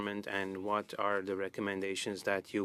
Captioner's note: speaking French